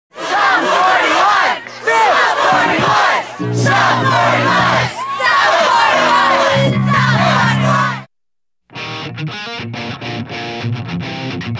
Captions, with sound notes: - [CROWD] SUM 41, SUM 41, SUM 41, SUM 41, SUM 41! [INTENSE MUSIC]